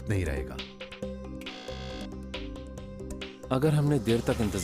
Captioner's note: buzzer sounds